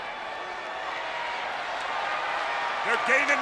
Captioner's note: audience cheers